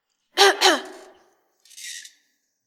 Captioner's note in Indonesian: batuk